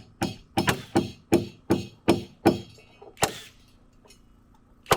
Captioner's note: nail gun shoots